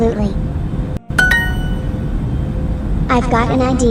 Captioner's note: Duolingo correct sound